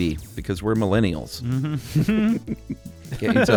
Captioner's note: laughter